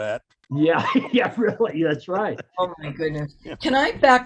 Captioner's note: laughing